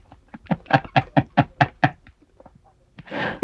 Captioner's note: laughing